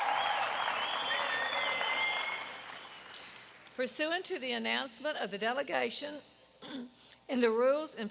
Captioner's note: applause